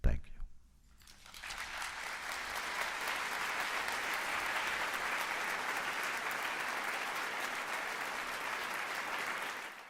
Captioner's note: applause